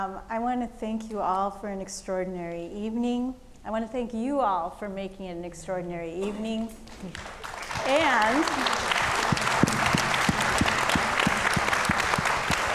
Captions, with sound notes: I wanna thank you all for an extraordinary evening. I wanna thank you all for making an extraordinary evening. (audience clapping)